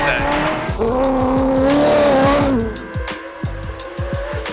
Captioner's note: car engine revving